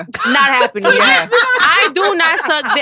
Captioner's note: all laughing